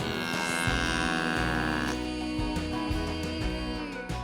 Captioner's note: cow moos